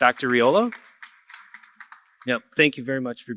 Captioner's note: applause